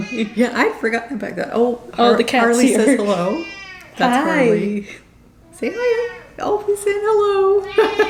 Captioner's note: meow